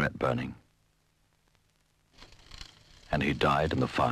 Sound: fire crackles

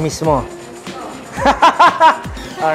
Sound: laughs

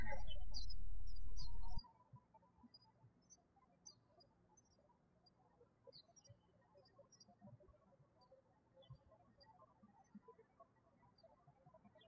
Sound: birds chirping

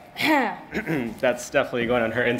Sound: clears throat

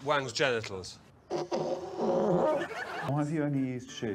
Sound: fart noise

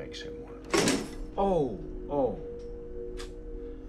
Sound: thump

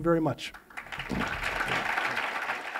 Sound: applause

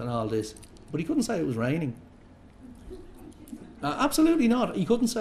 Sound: laughter

